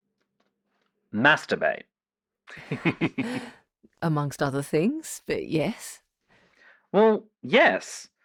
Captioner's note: laughs